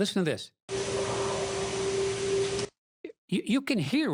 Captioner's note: howl